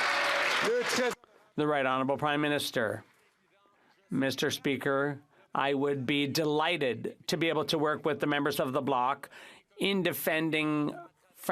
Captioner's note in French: applaudissements